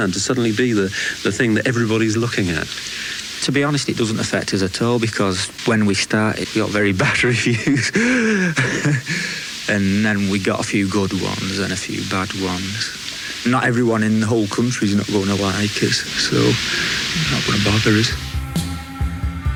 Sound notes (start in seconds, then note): 9.0 laughs